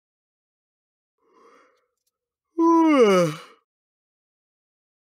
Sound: sound of yawning

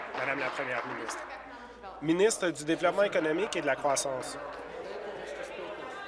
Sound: applause

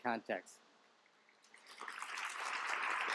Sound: applause

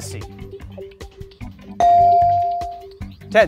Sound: bell dings

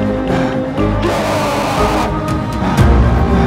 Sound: screams

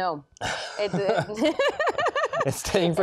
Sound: laughs

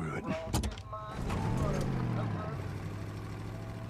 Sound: shifts gear, engine rumbles

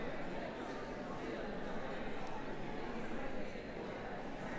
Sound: background conversations

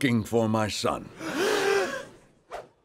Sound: gasp

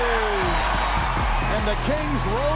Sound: crowd cheers

